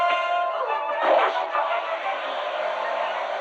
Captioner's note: electricity buzzing